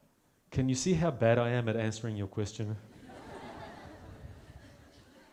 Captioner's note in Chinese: 大笑